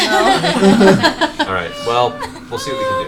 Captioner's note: all laugh